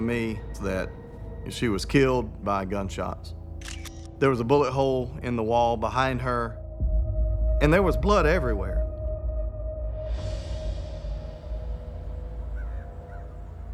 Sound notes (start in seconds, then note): 3.6 camera shutter clicks; 9.0 ominous music